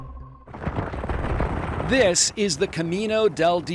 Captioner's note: dirt road rumbling